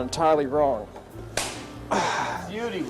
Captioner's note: smack; sigh